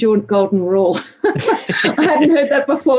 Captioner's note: laugh